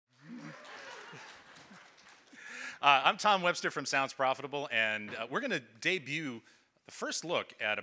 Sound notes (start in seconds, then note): 0.1 audience applauding